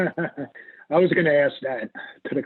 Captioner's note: laughing